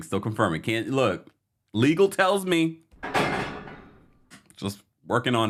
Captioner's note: metal clanging